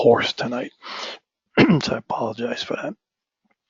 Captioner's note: cough